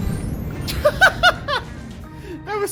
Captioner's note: laughing